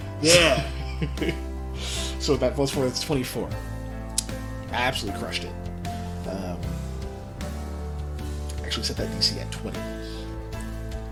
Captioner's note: laughs